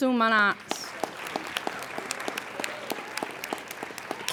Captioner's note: applauding